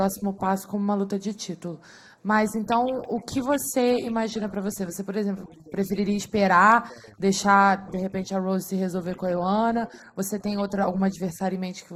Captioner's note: speaking foreign language